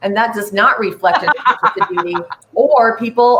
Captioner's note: laughing